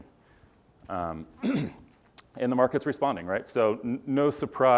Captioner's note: cough